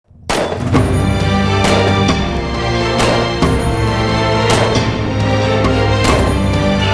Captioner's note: gunfire